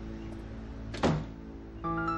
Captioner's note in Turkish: Kapı çarpma sesi